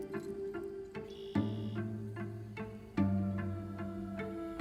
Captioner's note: birds singing